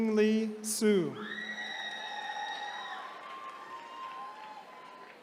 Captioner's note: attendees cheering